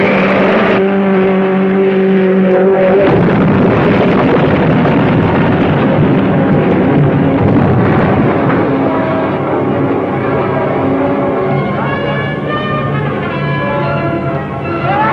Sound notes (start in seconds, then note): 3.2 cars crashing; 7.7 dramatic music; 7.7 explosion booming